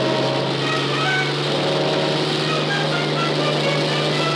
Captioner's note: helicopter whirring